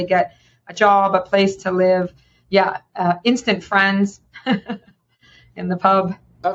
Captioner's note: chuckling